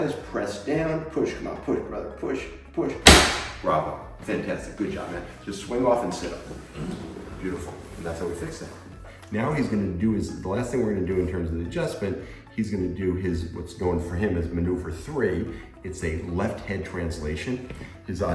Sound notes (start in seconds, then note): 3.0 table snaps